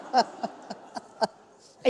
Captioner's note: laughter